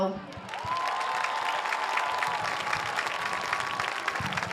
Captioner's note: audience cheers